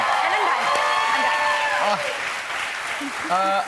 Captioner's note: cheers and applause